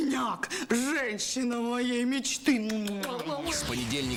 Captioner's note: sounds of kissing